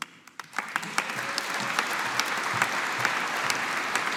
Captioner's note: audience applauding